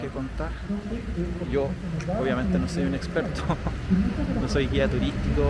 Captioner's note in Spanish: risas